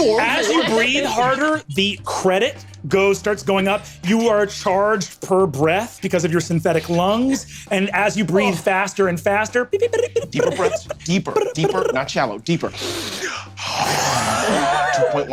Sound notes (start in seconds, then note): 9.7 vocalizes beeps; 12.7 inhales and exhales slowly